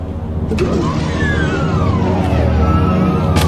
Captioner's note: gun malfunctions